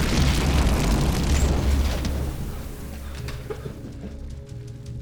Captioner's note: fire blazes